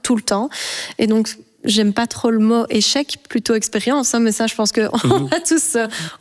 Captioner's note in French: rire